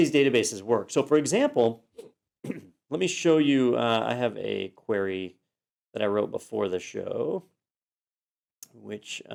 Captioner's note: cough